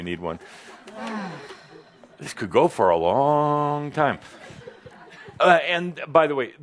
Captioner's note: sighs